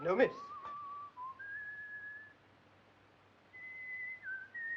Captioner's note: whistling continues